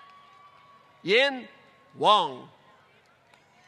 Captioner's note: applause